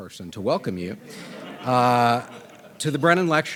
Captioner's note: audience laughing